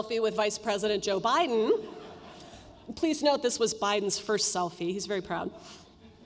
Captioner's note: laughter